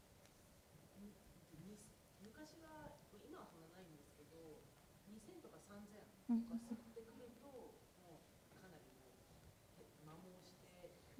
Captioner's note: speaking japanese